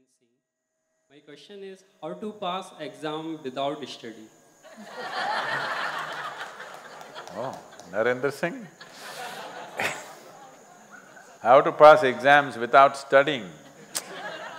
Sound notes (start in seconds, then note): 9.3 laughs; 13.6 laughter